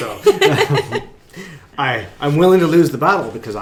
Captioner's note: laughing